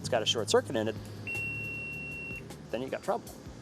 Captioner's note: beeps